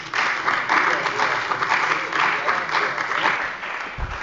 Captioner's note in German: Beifall bei der CDU und dem BÜNDNIS 90/DIE GRÜNEN